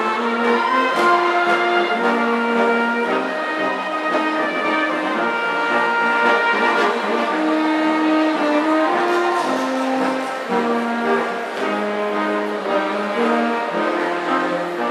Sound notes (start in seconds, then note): 1.0 audience cheering